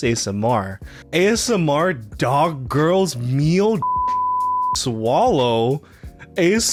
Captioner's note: beep